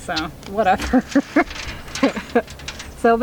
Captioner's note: laughing